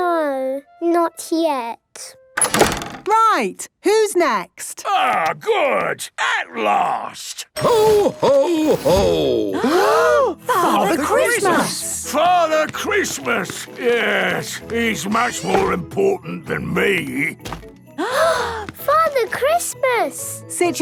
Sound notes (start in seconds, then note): 2.4 doors slamming